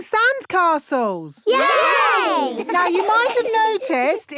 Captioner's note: laughing